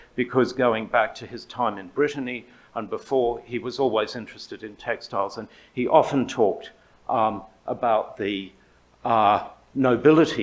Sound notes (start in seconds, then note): none